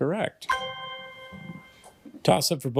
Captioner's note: ethereal ring